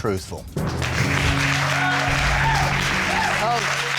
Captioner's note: crowd applauding